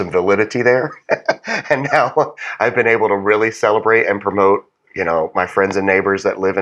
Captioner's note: laugh